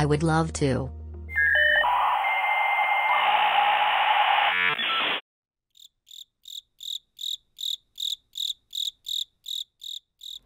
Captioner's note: series of electronic beeps and sounds, similar to dial-up internet noises